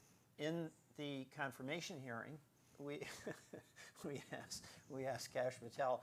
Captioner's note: chuckles